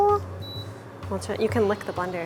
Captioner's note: stove beeps